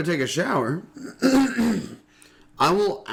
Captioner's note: clearing throat